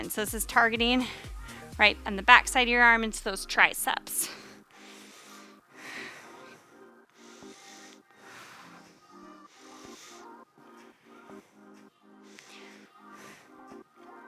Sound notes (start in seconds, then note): 6.3 upbeat music; 7.1 panting